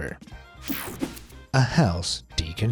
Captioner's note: swishing